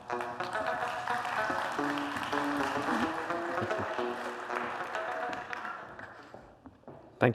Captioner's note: applause